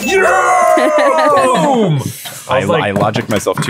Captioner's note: laughing